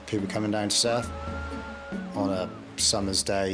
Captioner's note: water splashes